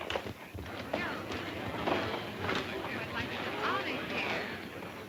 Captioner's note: patrons chatting